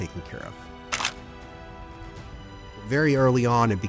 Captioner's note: gentle music continues; camera click